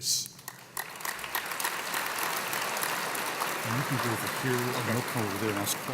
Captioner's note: applause